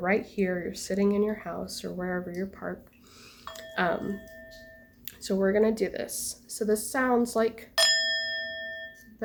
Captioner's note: bell chime